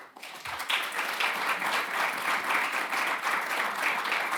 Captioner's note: audience applauding